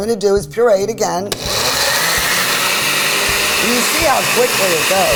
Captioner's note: blender whirring